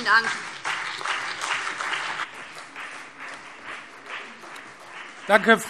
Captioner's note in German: Beifall BÜNDNIS 90/DIE GRÜNEN und CDU